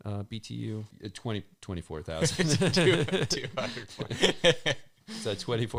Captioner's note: both chuckling